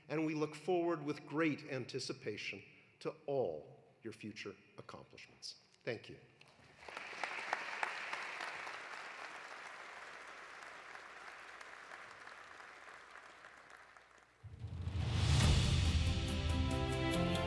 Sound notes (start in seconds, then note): 6.6 audience applauding; 14.5 dramatic music